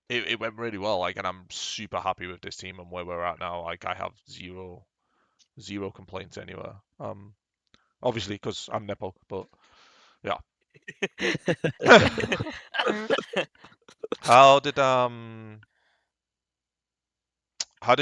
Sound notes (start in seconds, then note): 10.9 laughs